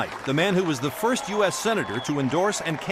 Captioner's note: applause